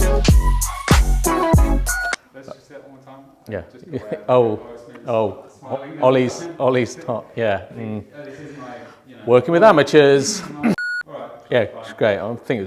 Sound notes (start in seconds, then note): 1.7 beeps; 10.7 beeps